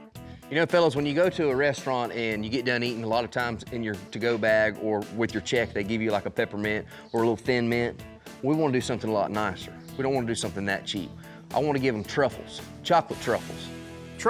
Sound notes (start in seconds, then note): none